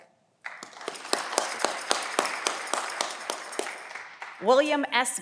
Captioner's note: audience clapping